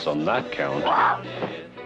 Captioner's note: bird squawks